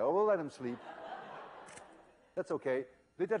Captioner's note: laughter; click